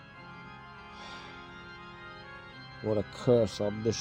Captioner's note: sigh